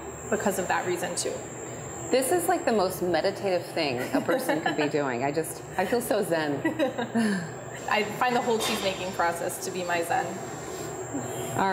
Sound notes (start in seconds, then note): 3.9 laughs